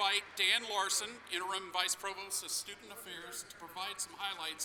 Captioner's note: applause